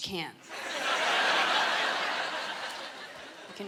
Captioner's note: laughter